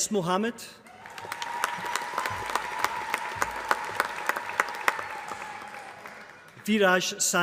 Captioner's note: applause